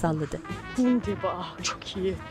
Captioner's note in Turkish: Almanca konuşma